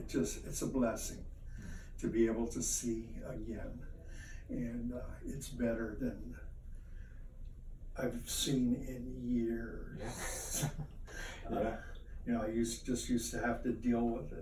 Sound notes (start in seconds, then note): 10.1 chuckle